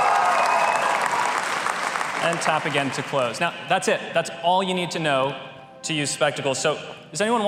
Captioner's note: applause